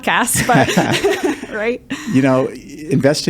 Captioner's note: both laughing